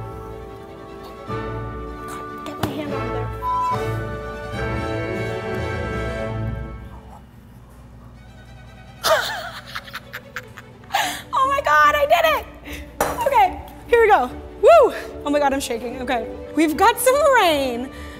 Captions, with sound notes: God, get my hand out of there, (beep) (triumphant classical music) (laughs) Oh my God, I did it! Okay, here we go. Woo. Oh my God, I'm shaking, okay. We've got some rain.